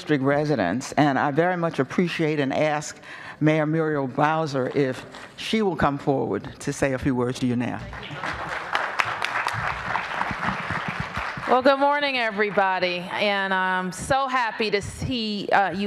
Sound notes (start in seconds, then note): 7.8 applause